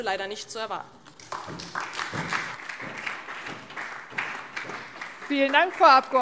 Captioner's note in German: Beifall DIE LINKE und SPD